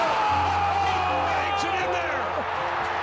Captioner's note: crowd cheering